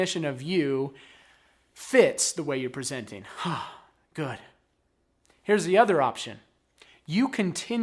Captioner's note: exhales